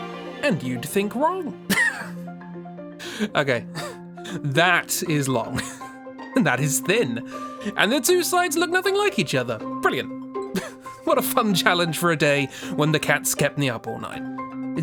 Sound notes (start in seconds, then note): 1.7 laughs